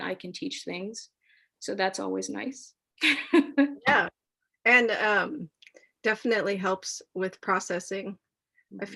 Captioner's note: laughs